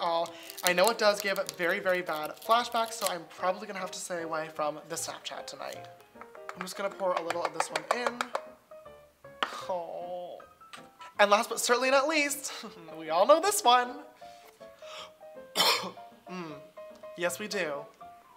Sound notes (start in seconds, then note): 15.5 coughs